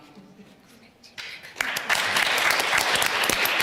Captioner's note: applause